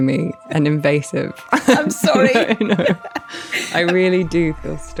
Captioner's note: laughing; laughs